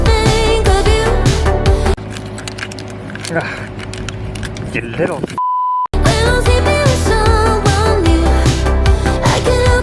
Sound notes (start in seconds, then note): 1.9 nails Rattling; 5.9 sexy Music